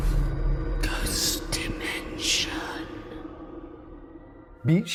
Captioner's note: voiceover